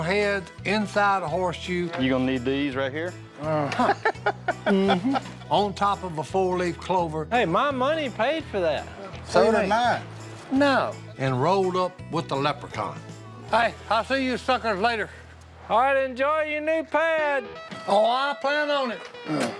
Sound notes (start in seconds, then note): 3.4 laughs